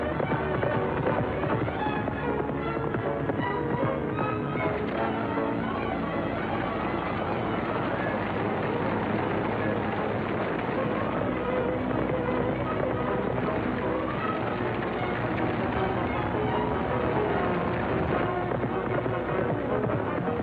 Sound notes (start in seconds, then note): 0.2 horse galloping; 4.9 dramatic music continues; 7.6 wagon rattling; 13.2 horse galloping